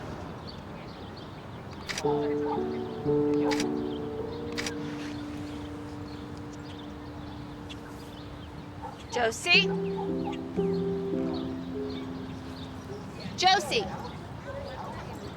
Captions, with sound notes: (shutter clicking) - Josie? (soft dramatic music) Josie?